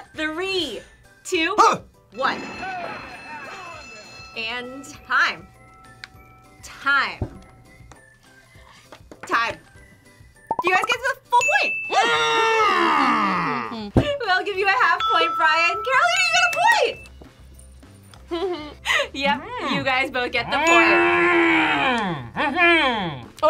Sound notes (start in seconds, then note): 2.2 bell rings; 11.7 hums happily; 12.6 roars victorious; 20.9 roars victoriously